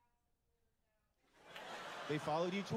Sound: laughter

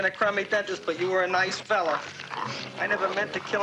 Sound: crunching

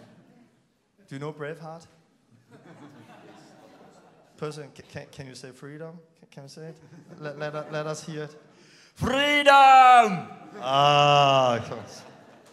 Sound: laughing

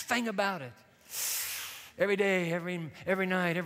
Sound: inhales sharply

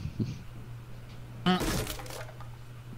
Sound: wood panel getting broken

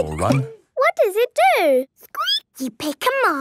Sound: squeaking

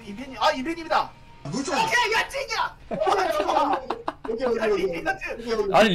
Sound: speaking Korean

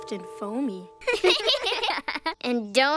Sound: laugh

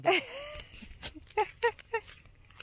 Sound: laughing

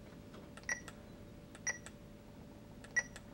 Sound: bar code scanner....scanning

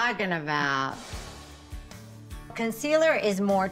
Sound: light music; air whooshing

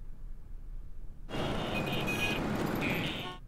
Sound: vehicles on road

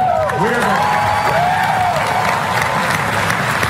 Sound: applause

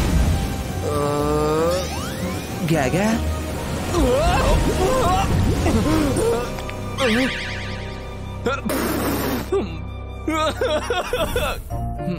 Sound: spits and roaring

